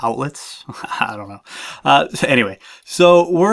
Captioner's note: laughs